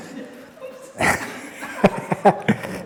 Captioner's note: laughs